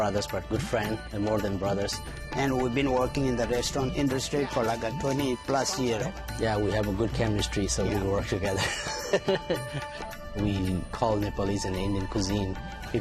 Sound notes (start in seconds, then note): 8.5 laughs